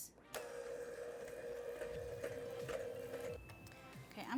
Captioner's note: mixer hums